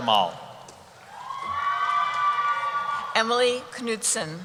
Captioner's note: cheering